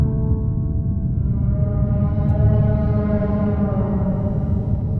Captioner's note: Aerozoan distant, subsonic creature moan